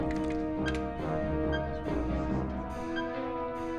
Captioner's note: machine beeping